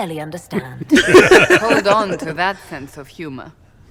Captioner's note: laughs